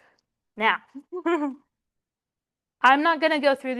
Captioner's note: chuckles